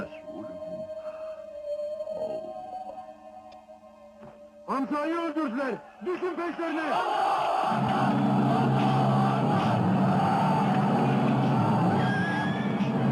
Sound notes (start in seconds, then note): 7.4 army shouting in Arabic